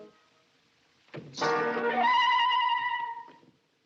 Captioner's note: door Opens